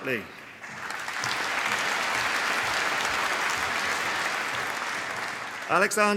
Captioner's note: applause